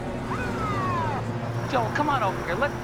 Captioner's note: siren wailing